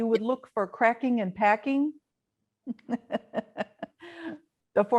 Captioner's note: laughs